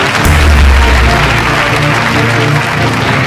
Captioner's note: Mouthing